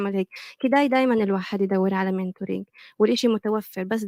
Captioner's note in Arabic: لغة أجنبية